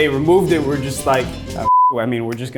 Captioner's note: beep